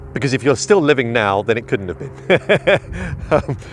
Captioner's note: laughs